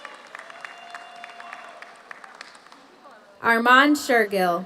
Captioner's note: audience cheers; audience applauds